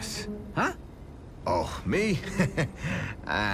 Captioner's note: chuckles